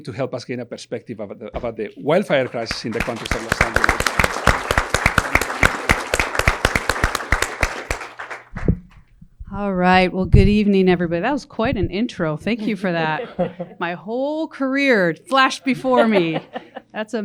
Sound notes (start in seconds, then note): 4.2 audience applause